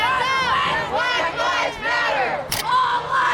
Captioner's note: crowd